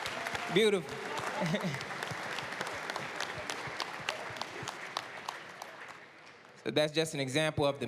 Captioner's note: applause